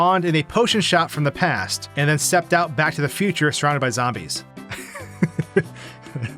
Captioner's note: laughs